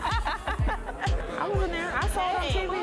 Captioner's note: both laughing